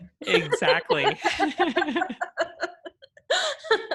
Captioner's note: laughter